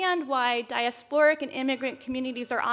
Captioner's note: none